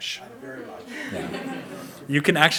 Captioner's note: audience laughs